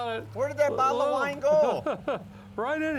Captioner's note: chuckles